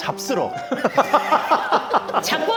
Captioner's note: cracks up